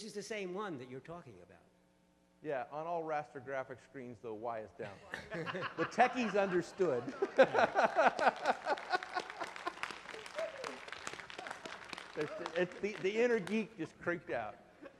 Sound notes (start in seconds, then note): 4.9 laughter; 7.5 laughing; 7.6 applause